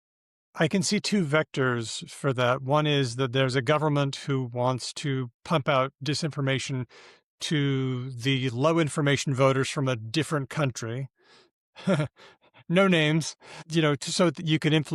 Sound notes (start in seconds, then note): 11.8 chuckles